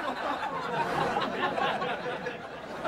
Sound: audience Laughing

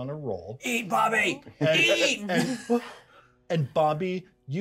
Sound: speaker laughs

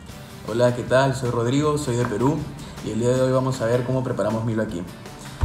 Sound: speaking in foreign language

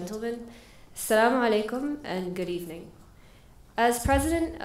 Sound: foreign language

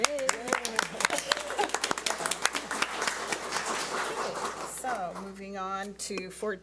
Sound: audience cheers and applauds

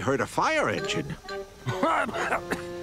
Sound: coughing

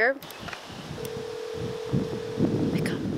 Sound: phone ringing

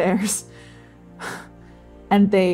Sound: scoffing

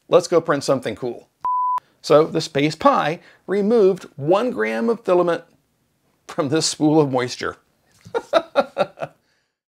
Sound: laughs

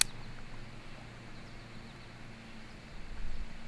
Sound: lighter clicking

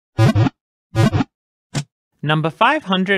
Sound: Pokéball wiggle sound

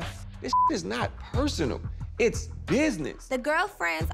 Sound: beep

